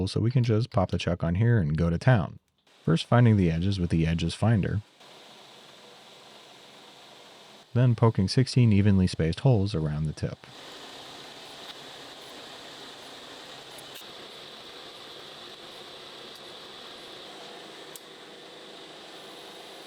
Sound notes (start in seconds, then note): 4.8 machine whirring